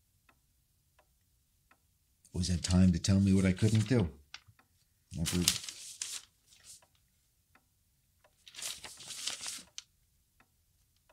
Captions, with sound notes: Always had time to tell me what I couldn't do. That hurt. (clock ticking)